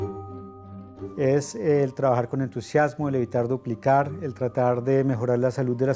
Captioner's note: Spanish